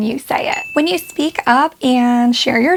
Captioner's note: bell dings